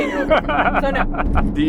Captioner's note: laughs